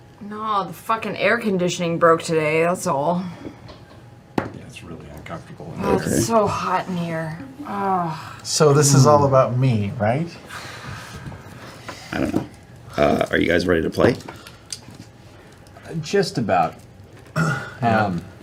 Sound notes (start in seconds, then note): 5.8 groans